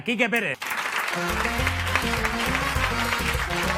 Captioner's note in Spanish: Aplausos